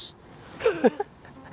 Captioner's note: laughs